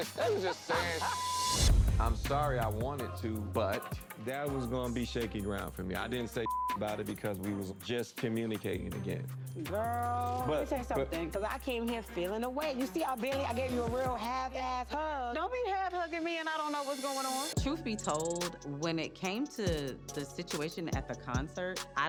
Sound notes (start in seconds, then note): 0.0 laughing; 1.1 beep; 6.4 beep